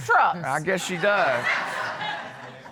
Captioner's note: crowd laughs